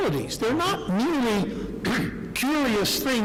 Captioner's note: clears throat